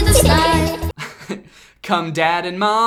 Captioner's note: chuckles